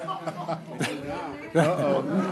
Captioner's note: laughter